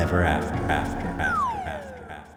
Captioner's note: echoing